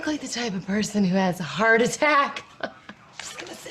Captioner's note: laughing